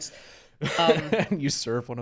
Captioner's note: laughs